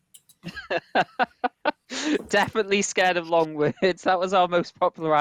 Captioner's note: laughs